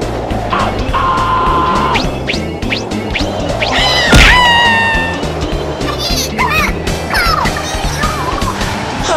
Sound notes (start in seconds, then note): 0.5 screaming; 4.1 slap